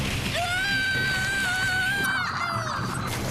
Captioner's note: screams